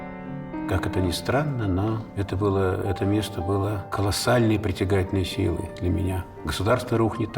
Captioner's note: Aleksandr Sokurov, in Russian